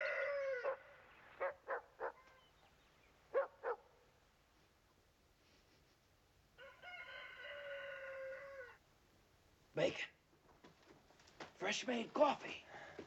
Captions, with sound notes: [DOG BARKING] BACON! FRESH-MADE COFFEE!